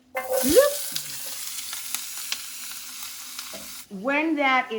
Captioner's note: pan sizzles